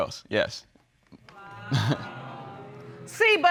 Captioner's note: chuckles